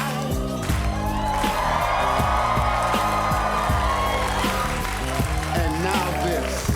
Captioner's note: audience cheering